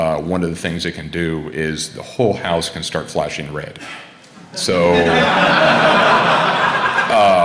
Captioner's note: laughter